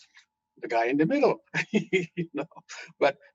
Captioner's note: laughing